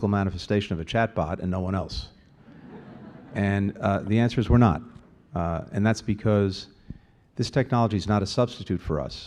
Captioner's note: laughter